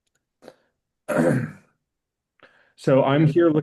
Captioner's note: clears throat